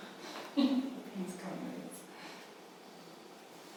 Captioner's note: women murmuring